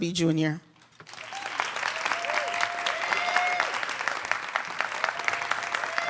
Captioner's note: audience clapping and cheering